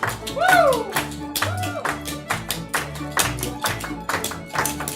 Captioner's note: performers shouting